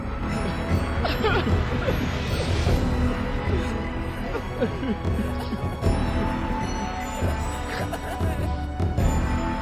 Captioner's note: crying